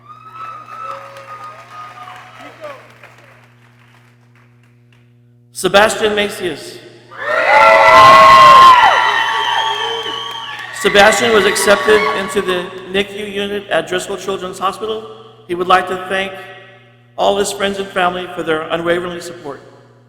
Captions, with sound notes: Sebastian Macias. (people cheering) "Sebastian was accepted into the NICU unit at Driscoll Children's Hospital. He would like to thank all his friends and family for their unwavering support."